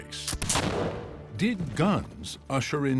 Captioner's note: gunshot